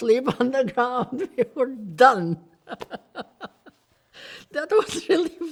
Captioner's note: laughs